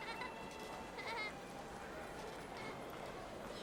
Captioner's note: child laughing